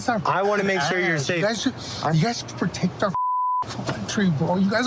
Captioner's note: beep